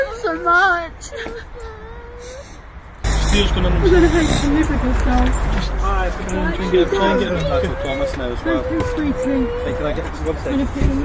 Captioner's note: baby crying